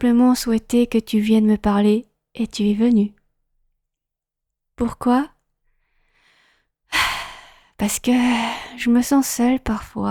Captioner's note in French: soupir